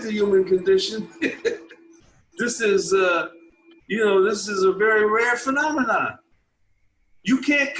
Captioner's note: laughing